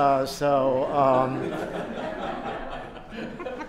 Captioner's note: laughter